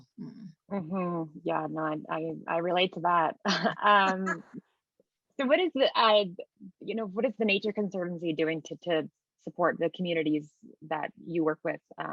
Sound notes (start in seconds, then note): 2.7 chuckles; 3.5 laughing